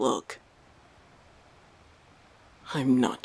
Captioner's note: the sound of ocean waves fades